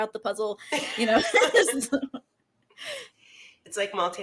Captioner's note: chuckles